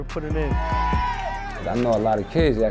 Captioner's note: kids cheering